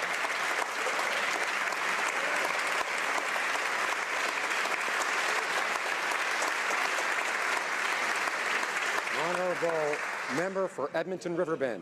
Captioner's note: applause